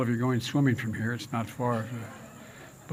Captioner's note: laughter